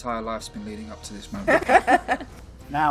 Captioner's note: laughing